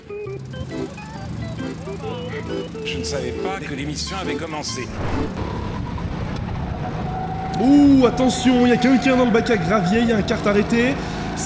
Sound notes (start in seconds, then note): 4.8 same meme sound